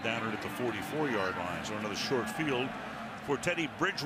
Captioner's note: pa announcement